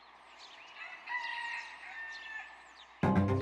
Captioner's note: rooster crowing